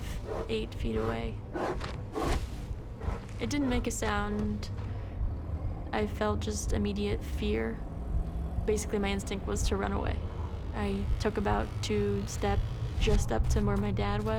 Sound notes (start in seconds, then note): none